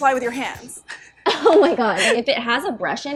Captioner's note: laughs